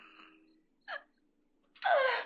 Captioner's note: whimpering